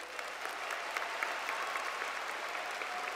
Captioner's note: cheers and Applause